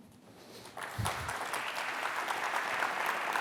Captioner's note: applause